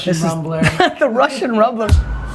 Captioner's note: laughter